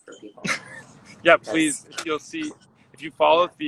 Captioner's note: laughs